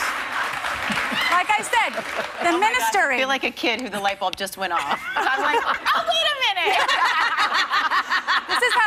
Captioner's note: applause